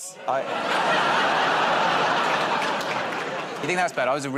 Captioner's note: laughter